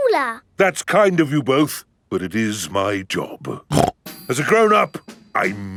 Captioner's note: snorts